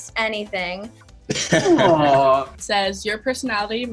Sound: laughing

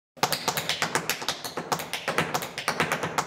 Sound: tap dancing

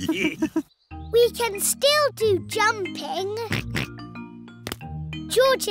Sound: all laughing; oinks

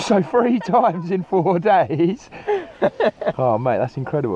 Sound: laughs loudly

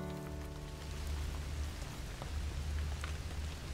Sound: rain pattering

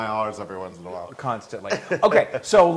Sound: laugh

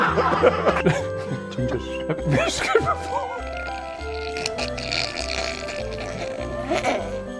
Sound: all laugh; both crack up laughing

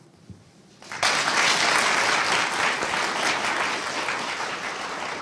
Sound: audience applauding

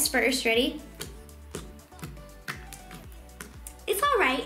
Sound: clicking

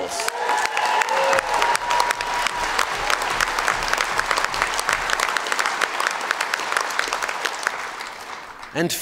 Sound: cheers & Applause

